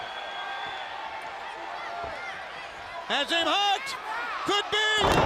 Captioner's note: crowd chatter